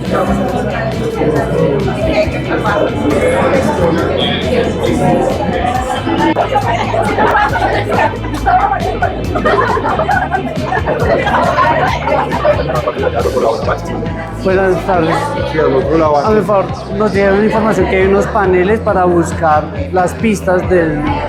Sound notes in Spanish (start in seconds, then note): 8.2 risas